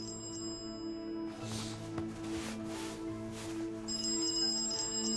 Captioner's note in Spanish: Suena el celular